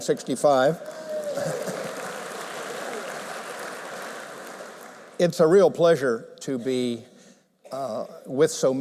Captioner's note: applause